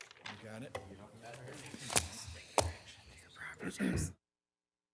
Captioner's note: attendees murmuring